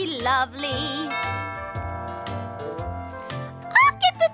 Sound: doorbell

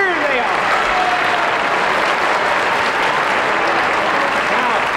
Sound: crowd applauds

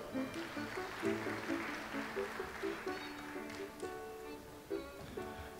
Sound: audience applauds

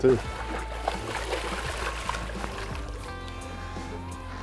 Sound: splashing

